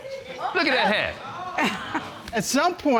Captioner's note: chuckles